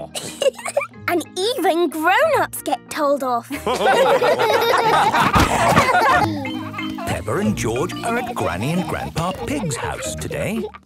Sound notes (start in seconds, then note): 3.5 all laughing